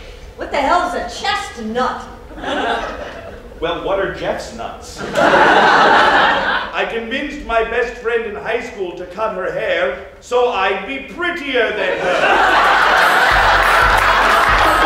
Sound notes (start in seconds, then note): 5.0 laughter; 12.0 festive electronic music and laughter